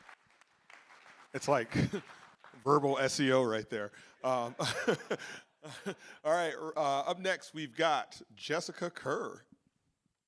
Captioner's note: applause